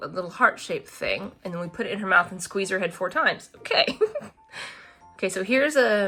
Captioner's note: laughs